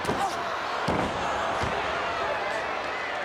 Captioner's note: Virgil thuds; crowd yelling